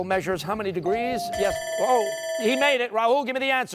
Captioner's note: bell dings